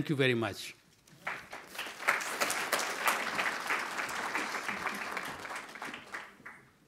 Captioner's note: audience applauds as exits the stage